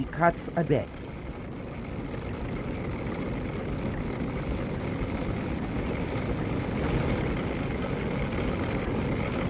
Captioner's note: machine Noise